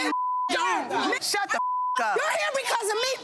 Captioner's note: beep